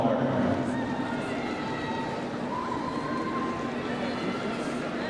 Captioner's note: crowd cheering